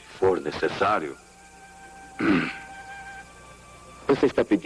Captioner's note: clears throat